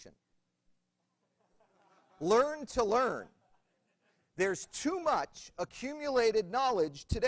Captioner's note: laughter